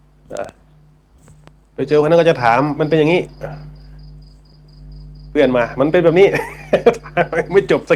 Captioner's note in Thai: เสียงหัวเราะ